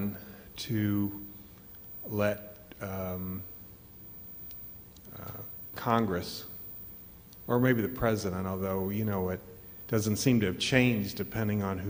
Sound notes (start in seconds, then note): none